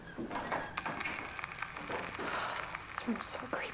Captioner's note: static buzzing; high-pitched tone ringing